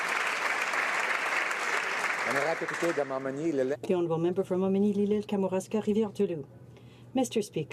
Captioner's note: some Applause